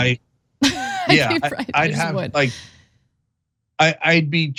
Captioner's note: laugh